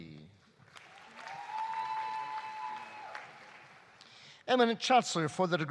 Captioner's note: audience applauding; audience cheering